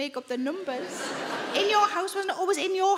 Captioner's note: audience laughing